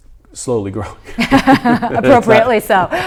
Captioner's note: laughing